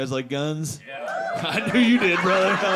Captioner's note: audience cheering